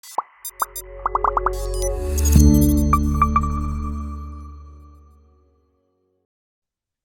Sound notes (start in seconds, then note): 0.5 intriguing music; 1.0 bubbles popping